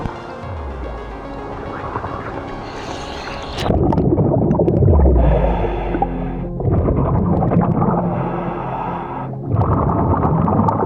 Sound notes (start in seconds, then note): 4.1 water bubbling; 7.6 calm music